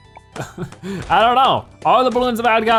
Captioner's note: laughs